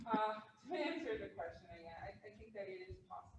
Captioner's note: laughs